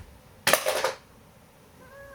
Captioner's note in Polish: brzdęk